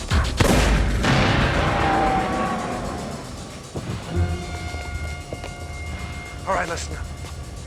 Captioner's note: grenade explodes; man screaming